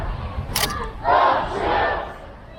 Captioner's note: crowd